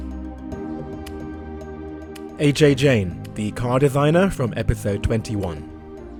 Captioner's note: voiceover